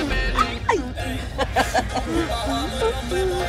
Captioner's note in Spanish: Risas